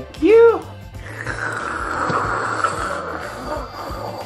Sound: drinking noise

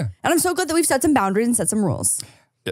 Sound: laughs

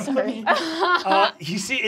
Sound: laughing

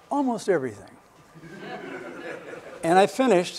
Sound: laughter

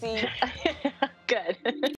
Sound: chuckles

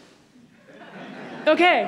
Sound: audience laughs

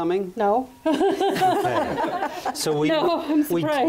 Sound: laughs

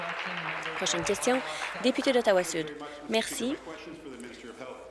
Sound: applause

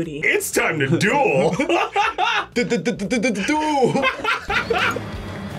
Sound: laughs

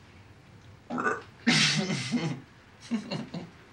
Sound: burps

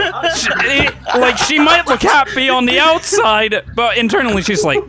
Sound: group hysterics

